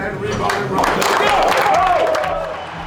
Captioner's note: crowd cheers; people clap randomly